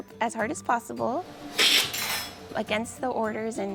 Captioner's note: slurp sound